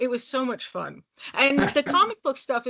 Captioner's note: chuckling